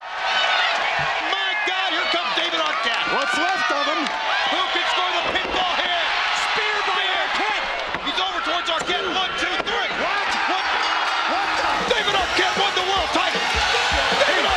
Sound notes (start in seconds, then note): 0.2 audience cheers; 11.4 bell rings